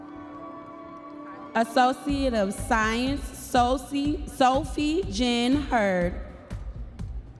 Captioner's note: audience members cheering